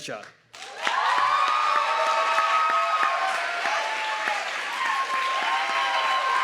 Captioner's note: audience clapping and cheering